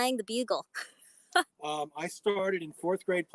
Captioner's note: laughs